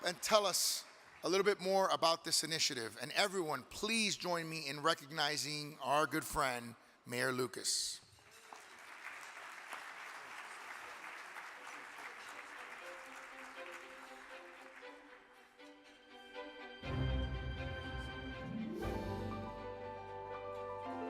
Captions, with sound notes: and tell us a little bit more about this initiative. And everyone please join me in recognizing our good friend, Mayor Lucas. (audience clapping) (exciting music)